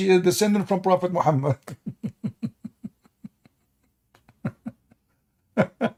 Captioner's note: Ketawa